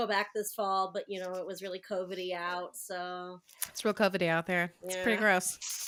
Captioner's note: sarcasm